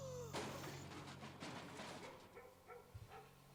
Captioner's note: man gasping; banging